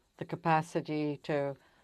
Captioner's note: speaking French